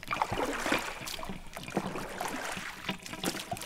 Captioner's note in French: none